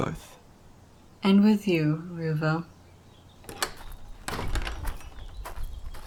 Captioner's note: door opens and closes; gravel footsteps